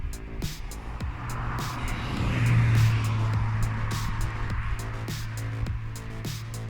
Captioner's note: traffic